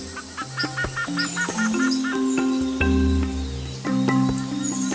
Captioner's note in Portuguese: Pássaros